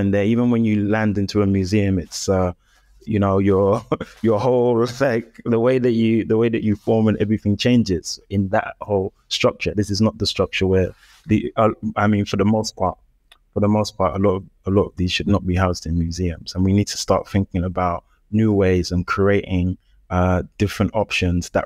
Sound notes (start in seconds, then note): 3.7 chuckles